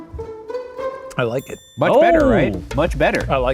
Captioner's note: bell dings